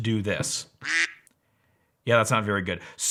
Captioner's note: buzzing